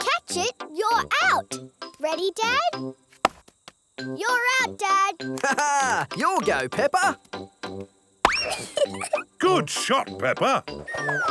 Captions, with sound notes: If we catch it, you're out! Ready, Dad? You're out, Dad! Ha, ha! Your go, Peppa! (GIGGLES) Good shot, Peppa!